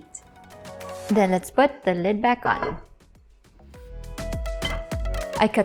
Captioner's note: lid thuds